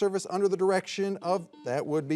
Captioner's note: signal beeps